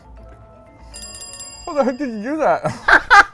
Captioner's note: bell chiming; laughs